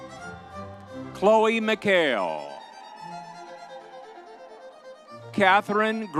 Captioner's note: crowd cheering